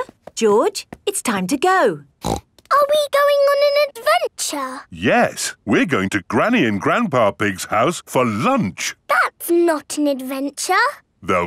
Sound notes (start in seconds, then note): 2.2 snorts